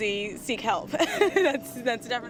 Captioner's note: laughing